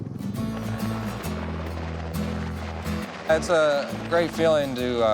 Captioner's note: helicopter rotors whirring